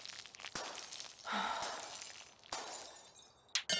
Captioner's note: she can only defeatedly sigh